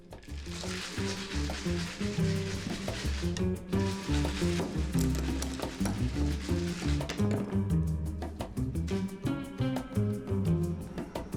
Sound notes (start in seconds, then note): 0.1 jar contents shake; 8.1 upbeat Latin music